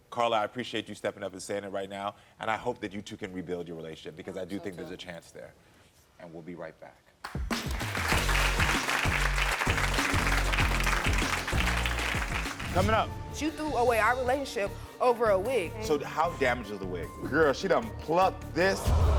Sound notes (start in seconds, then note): 7.2 audience clapping; 7.4 upbeat music